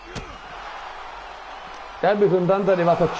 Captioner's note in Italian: Applauso